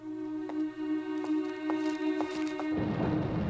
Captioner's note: footstep